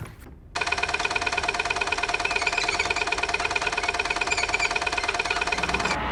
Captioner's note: screen squeaking